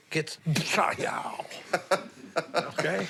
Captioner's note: laughs